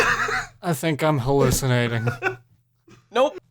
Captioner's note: slurred